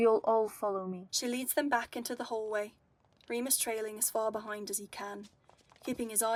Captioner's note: footsteps